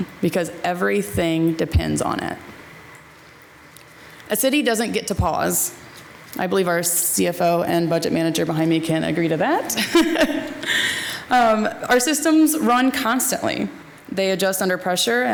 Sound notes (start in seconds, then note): 9.7 laughs